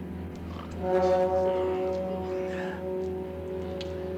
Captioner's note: grunting